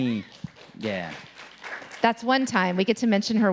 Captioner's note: audience applauding